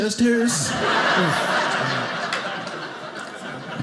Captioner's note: audience laughing